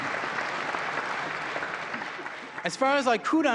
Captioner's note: applause